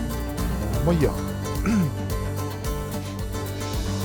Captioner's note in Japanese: 咳払い